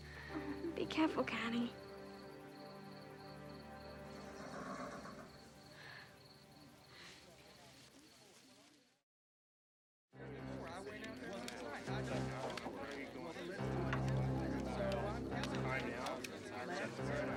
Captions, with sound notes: - Oh, be careful, Caddie. (horse nickers) (men chattering) (ominous music)